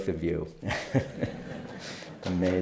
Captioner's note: laughter; applause